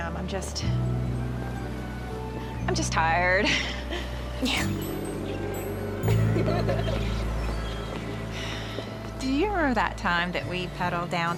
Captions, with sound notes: I'M JUST. I'M JUST TIRED. YEAH. [GIRLS LAUGHING] DO YOU REMEMBER THAT TIME THAT WE PADDLED DOWN